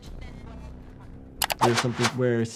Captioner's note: mouse clicks; air whooshing